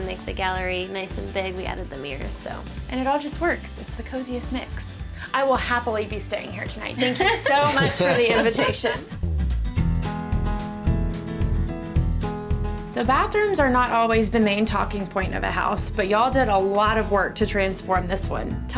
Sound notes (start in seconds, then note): 8.8 laughing; 9.9 mellow country music